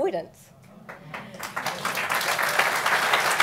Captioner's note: applause